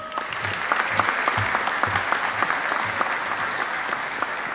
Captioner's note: audience applauding